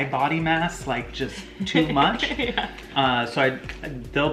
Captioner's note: laughs